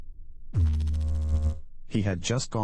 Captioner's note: electrical noise